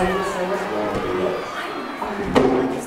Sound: classroom noise

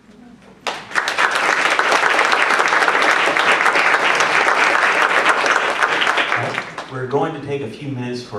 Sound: applause

